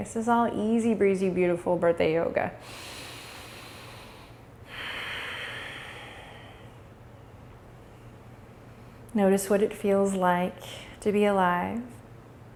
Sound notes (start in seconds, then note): 3.1 inhales; 4.6 exhales